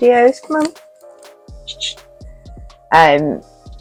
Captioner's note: chh chh cat speak noises